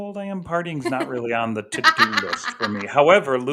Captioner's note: laughter